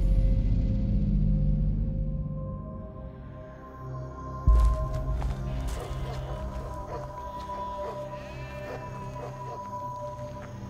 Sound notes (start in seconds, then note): 5.7 dog barks